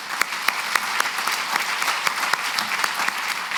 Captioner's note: applause